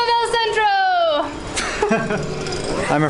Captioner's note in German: Lachen